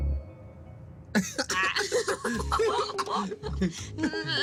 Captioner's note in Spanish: Risas